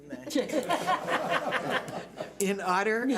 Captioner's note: laughing